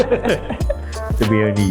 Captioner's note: laughing